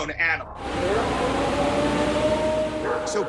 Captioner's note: recording howling